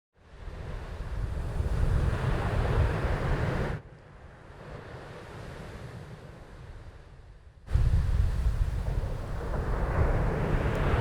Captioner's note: ocean Sounds